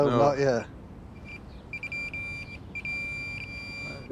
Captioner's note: metal detector beeping